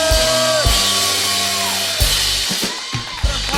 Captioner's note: cheers and applause